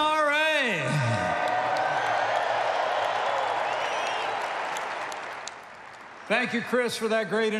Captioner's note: applause